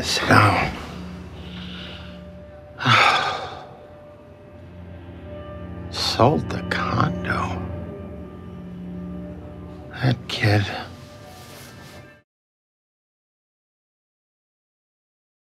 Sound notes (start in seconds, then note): 2.7 sighs